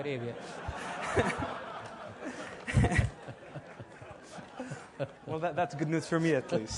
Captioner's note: laugh